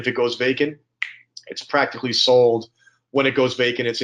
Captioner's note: snaps fingers